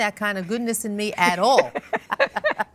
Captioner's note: laughs